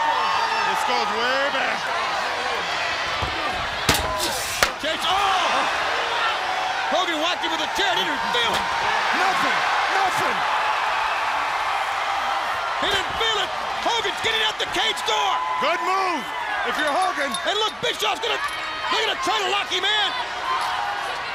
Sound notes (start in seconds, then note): 0.1 crowd chatter; 3.8 crowd chatter; 8.9 crowd cheering; 12.3 crowd cheering